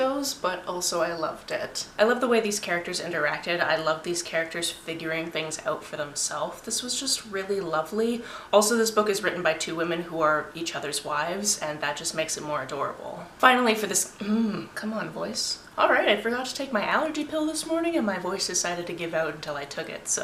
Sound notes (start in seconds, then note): 14.1 voice fades